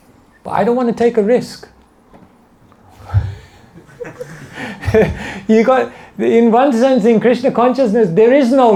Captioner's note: laughter